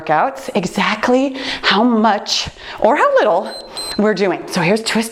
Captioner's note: timer beeps